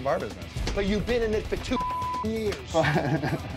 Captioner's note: beep; chuckles